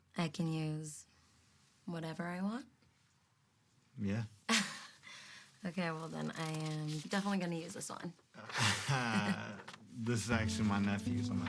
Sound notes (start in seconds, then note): 4.5 Cassie laughs; 8.4 Noah laughs